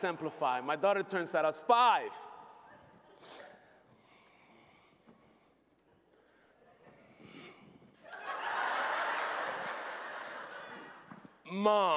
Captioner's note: laughter